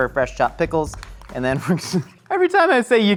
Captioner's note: laughs